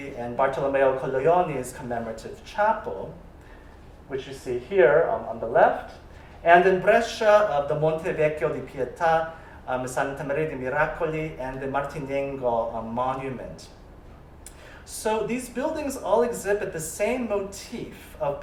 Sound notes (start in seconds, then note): 9.6 italian